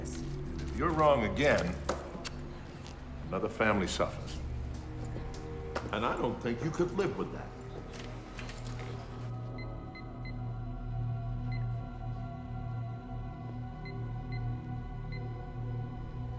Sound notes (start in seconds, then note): 9.7 phone keypad beeps; 9.7 suspenseful music